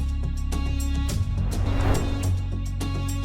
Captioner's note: suspenseful music continues; transition whooshing